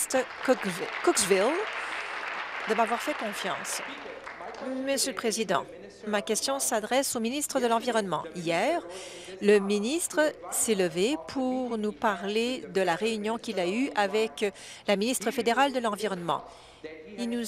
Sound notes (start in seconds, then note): 2.6 applause